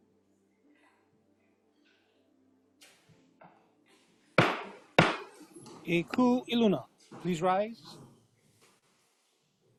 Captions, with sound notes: [gavel bangs twice] E kū i luna. Please Rise!